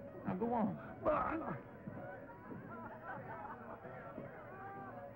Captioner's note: stammers